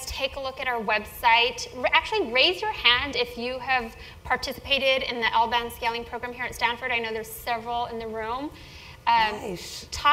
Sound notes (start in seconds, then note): none